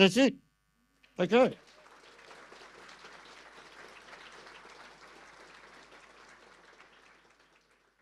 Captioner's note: audience applause